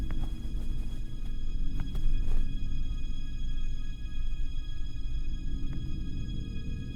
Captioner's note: quiet, eerie music; crickets chirping